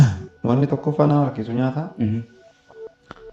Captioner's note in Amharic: ጉሮሮን ማጥራት